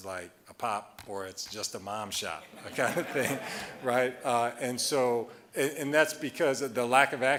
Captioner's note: audience laughing